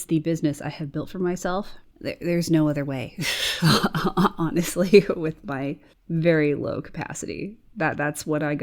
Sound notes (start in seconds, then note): 3.2 chuckles